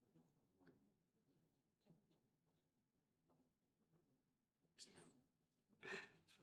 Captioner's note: silence